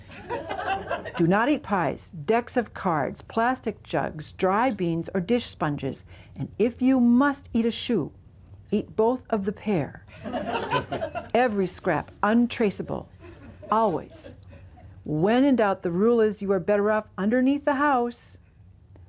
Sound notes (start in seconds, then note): 0.0 laughter; 10.1 laughter